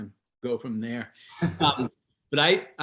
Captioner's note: chuckles